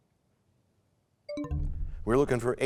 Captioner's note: bell chimes, time expires